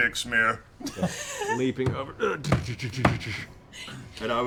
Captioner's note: grunt, running sounds